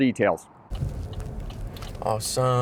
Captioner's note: indicator blinking